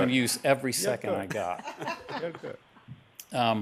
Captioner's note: laughter